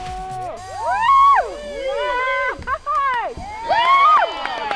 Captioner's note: cheering